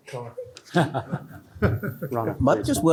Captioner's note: chuckling